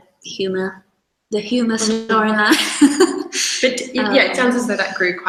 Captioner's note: laughs